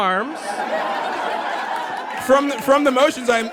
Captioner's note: audience belly laughs